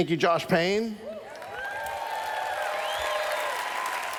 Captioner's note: cheers